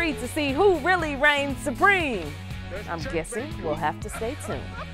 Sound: laughter

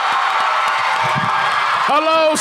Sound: applause

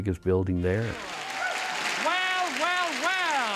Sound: applause

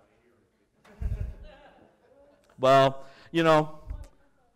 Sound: laughter

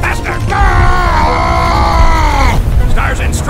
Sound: The I-185 screams

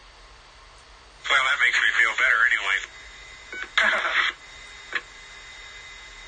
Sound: chuckles

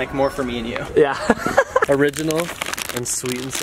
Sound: laughing

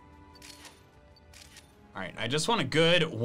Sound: photo snapping

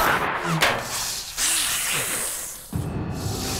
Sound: hissing

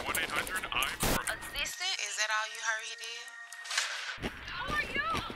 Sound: Love and Hip-Hop playing on TV

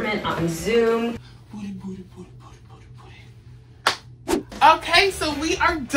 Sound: slap

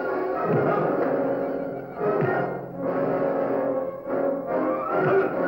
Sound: hissing; fighting sounds

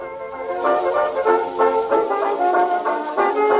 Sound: classical music playing; soft record player static playing

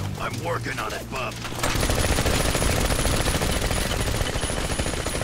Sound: gunfire

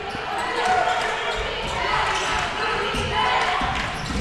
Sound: crowd cheering

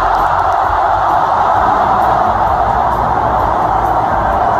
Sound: applause

